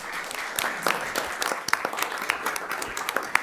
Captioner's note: crowd clapping